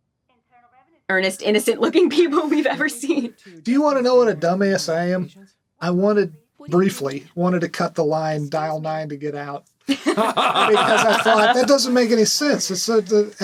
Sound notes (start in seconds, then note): 9.9 all laughing